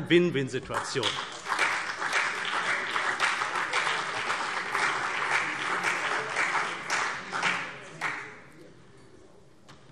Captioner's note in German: Beifall CDU und BÜNDNIS 90/DIE GRÜNEN